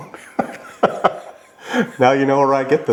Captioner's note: laughing